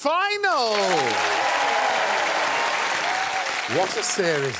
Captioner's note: crowd cheers